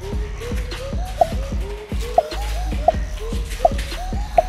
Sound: clicking noise

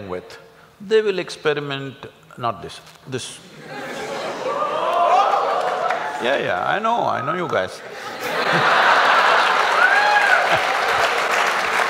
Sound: laughter & Applauds

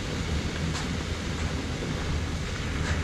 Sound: crackling and boiling sounds

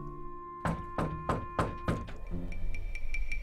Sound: knocking on door

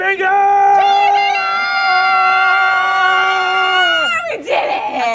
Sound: screaming

